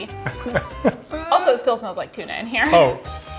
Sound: laughs

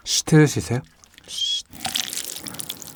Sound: shush

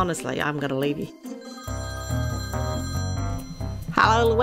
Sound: phone ringing

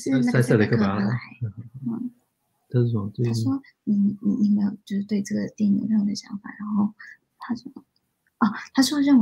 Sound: speaks mandarin

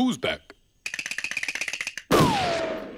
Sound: teeth chattering

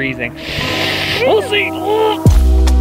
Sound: grunts; chill beat music

